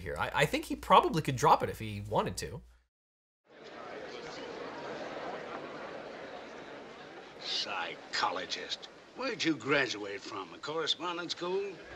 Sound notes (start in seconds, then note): 3.5 courtroom muttering